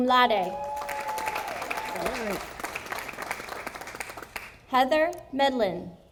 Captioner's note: audience applauding